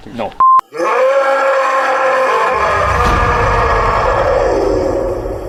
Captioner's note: animal roaring